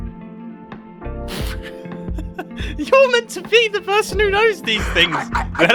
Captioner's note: laughs